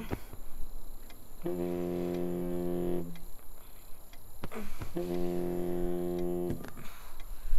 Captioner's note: Phone vibrating